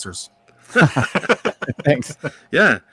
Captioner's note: laughing